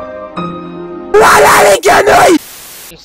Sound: crying

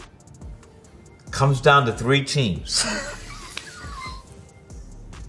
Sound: laughs

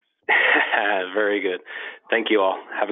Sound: laughs

